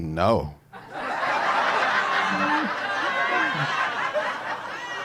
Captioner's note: audience laughing